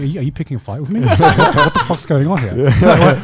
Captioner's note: laughing